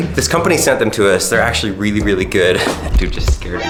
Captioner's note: laughs